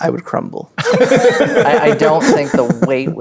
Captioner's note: players laughing